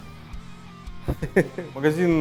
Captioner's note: giggles